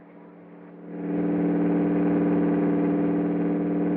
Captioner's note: engine Droning